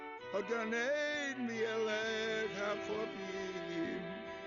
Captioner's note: speaking Hebrew